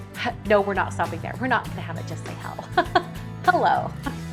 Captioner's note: laughs